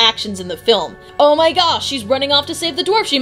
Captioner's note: sarcastically